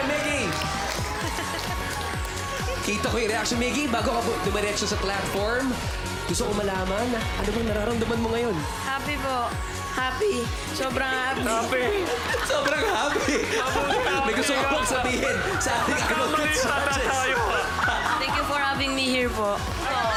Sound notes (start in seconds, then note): 1.2 chuckles; 9.2 in hoarse voice; 17.9 laughing